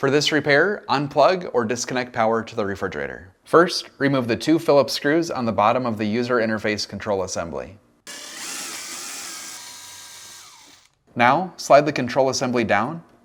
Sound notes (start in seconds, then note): 8.0 drilling